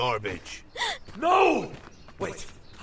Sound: sharp gasp

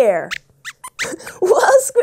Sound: squeaks squeaks

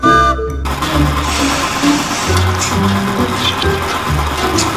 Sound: train whistle; machinery whirs

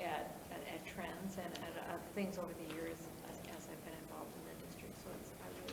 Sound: speaks faintly

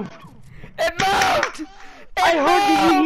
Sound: clapping

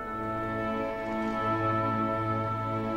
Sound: none

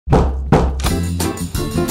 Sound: klopf, klopf

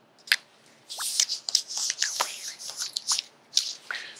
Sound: rubbing

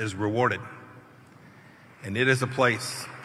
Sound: applause

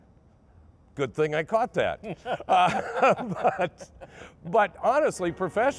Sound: laughing

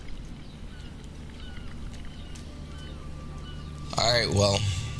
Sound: beachy atmospheric sounds

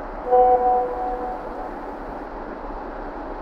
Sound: new message rings

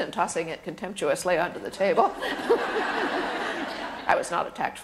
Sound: laughter

